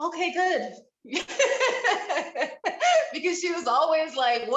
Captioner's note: panelist members laughing